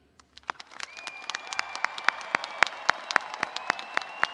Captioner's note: audience applauding